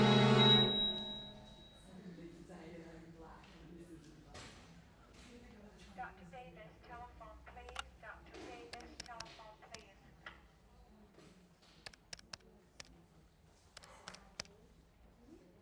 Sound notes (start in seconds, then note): 8.6 telephone keys clicking